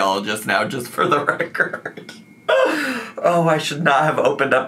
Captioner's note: laughs